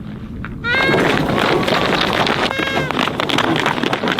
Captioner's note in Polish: sygnał dźwiękowy